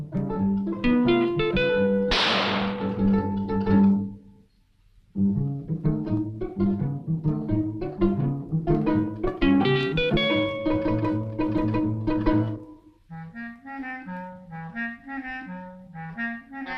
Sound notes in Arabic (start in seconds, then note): 2.1 اطلاق النار بالبندقية; 4.4 موسيقى مشوقة